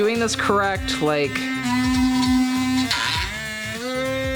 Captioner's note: motor whirring